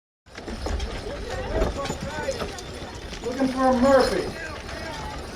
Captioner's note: horse hooves clopping